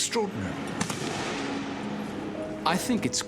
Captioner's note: weapon fires